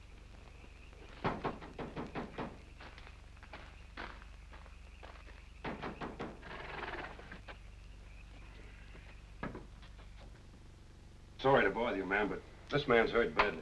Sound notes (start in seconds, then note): 0.0 foot Steps; 1.2 knocking; 4.4 foot Steps; 5.6 knocking; 6.4 horse's lips Flutter